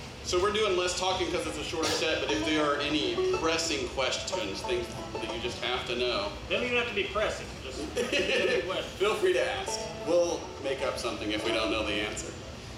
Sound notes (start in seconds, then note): 7.8 laughs